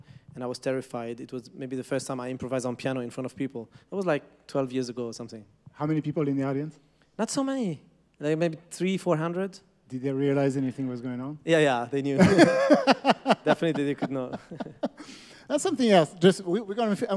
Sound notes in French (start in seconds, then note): 12.1 Rires